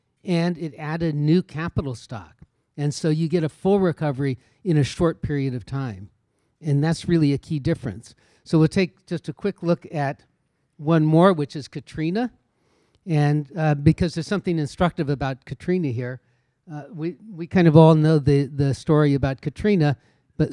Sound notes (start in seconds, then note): none